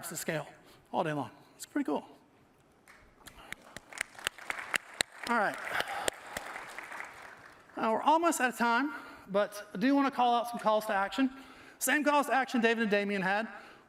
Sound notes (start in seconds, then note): 6.7 applause